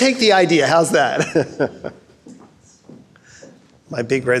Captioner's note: laughing